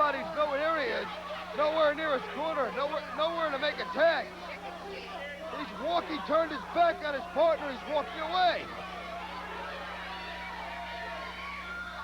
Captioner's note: crowd chatter